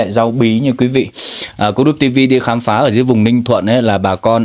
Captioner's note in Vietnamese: khịt mũi